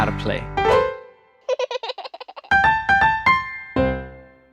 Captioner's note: piano roll; baby giggles